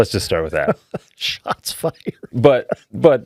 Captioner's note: laughing